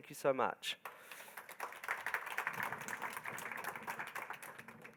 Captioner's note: crowd applauding